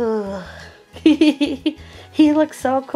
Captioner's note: laughing